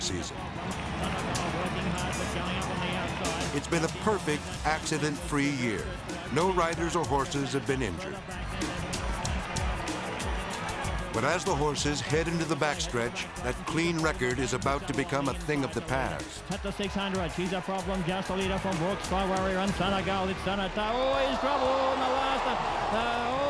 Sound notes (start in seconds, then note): 0.2 track announcer calling race; 7.9 announcer calling race; 7.9 suspenseful music; 16.5 track announcer calling race